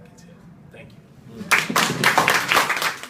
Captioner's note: applause